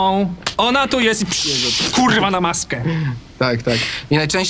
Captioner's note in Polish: odgłosy rozbryzgującej się farby na masce